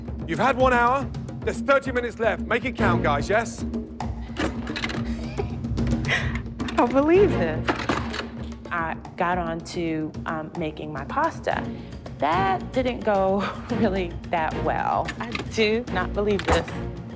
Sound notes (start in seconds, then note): 4.2 laughing